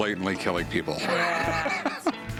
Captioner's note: laughs